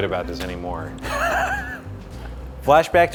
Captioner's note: laughing